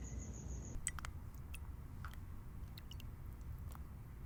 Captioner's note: tea sloshing